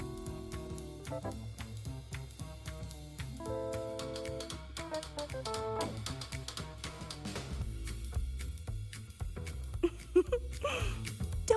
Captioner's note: upbeat music; giggles